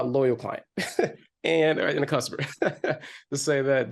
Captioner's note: chuckles; chuckles